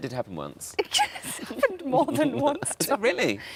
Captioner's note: laughs